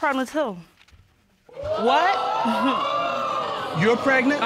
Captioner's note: audience exclaiming